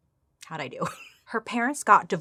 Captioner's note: laughs